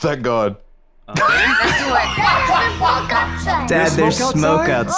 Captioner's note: laughs